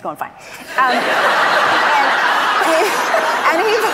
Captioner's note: audience laughs